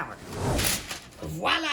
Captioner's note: whooshing